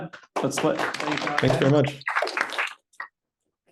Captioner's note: applause